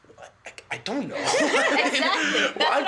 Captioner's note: several students laugh